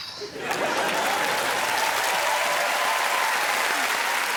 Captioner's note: cheering and applause